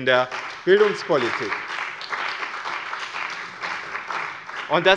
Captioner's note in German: Beifall bei dem BÜNDNIS 90/DIE GRÜNEN und der SPD